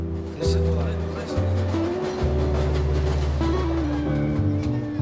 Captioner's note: train rumbling; gentle instrumental music